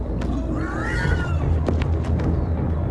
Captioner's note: pigs squealing